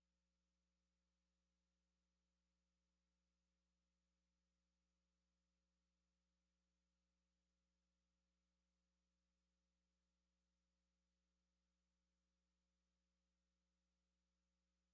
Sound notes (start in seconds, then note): none